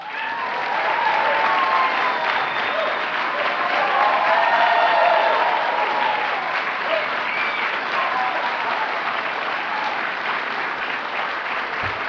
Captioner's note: applause